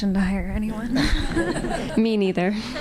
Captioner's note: audience laughing